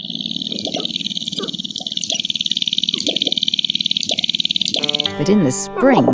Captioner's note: grouse stomping sound